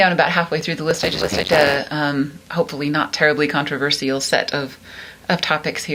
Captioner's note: static